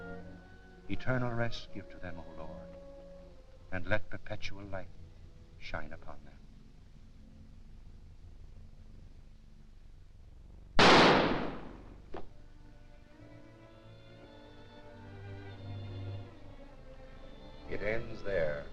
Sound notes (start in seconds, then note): 10.8 gunshot booming; 12.2 somber music